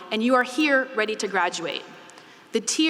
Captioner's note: none